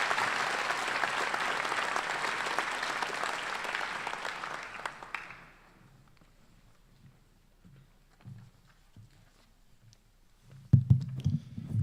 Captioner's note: applause